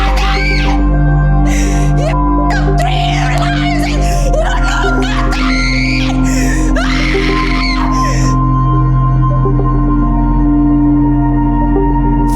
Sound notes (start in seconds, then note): 6.9 screams; 9.6 intense music